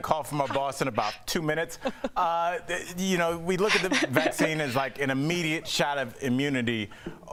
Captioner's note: laughter